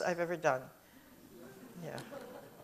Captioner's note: audience chuckles